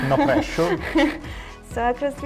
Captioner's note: chuckles